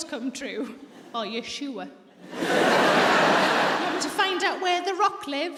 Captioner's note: audience laughs